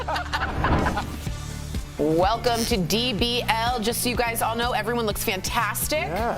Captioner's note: laughter